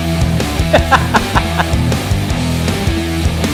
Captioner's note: laughing